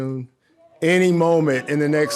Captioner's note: audience cheering